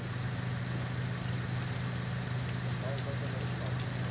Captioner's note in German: Motorrattern